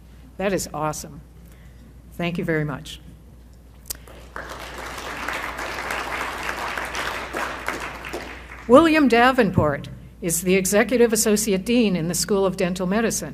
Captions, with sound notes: That is awesome. Thank you very much. [applause] William Davenport is the executive associate dean in the School of Dental Medicine.